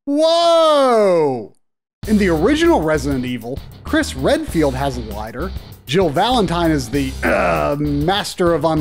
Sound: ahem

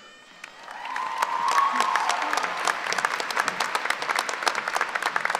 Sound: cheering and applauding

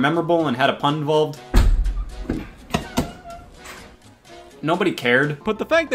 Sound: door creaking

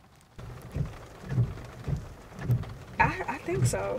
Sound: rain drizzling; window wipers swishing

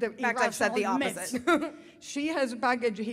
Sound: laughs

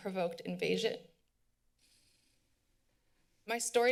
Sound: pause

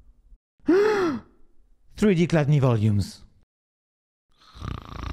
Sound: gasps

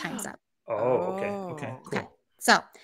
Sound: gasps

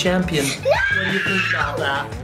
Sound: screams

